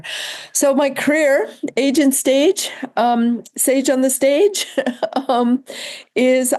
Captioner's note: laughs